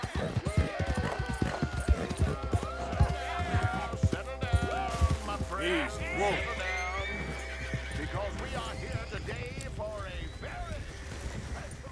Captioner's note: Several men are heard chanting in the distance. Arthur approaches the scene